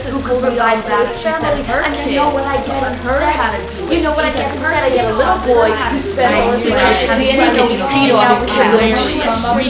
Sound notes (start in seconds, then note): 0.1 cacophony of overlapping family arguing